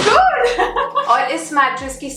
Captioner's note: chuckles